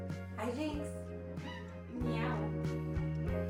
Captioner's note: meow